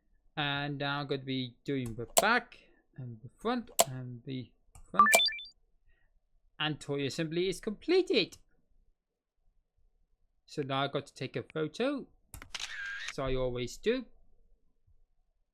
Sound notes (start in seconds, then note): 5.0 completion sound; 12.5 camera shutter sound